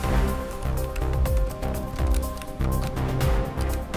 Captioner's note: tapping on keyboard